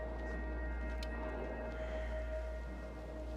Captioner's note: sighs